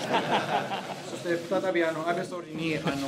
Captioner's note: laughter